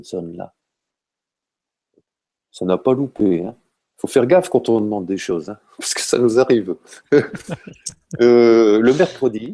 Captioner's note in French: rire